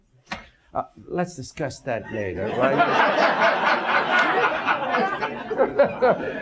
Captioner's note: audience laughs